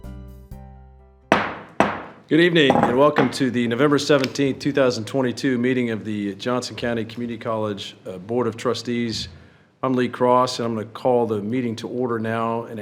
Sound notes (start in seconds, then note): 1.3 gavel banging